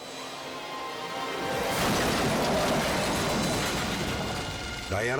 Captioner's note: cars crashing